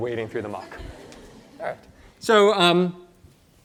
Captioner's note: laughter